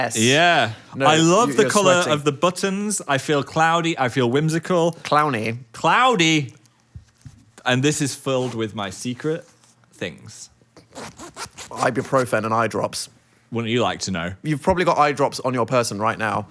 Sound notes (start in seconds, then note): 10.8 zipper zipping